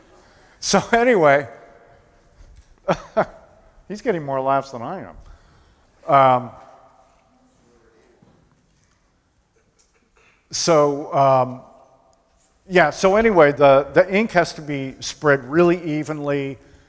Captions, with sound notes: [laughter] So anyway, he's getting more laughs than I am. So, yeah, so anyway, the ink has to be spread really evenly,